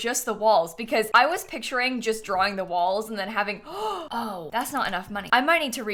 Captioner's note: gasps